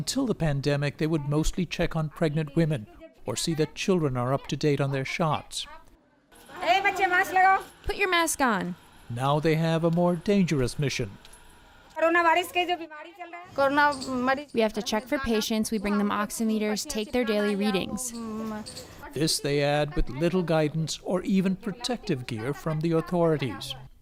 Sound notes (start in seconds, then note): 7.0 through translator; 13.6 through translator